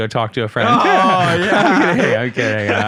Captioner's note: laughing; laughs